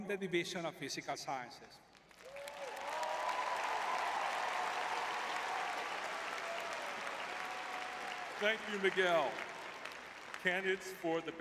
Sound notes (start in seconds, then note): 2.1 crowd cheering